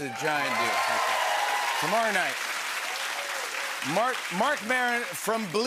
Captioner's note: cheers and applause